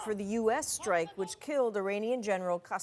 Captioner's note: speaking foreign language; shouting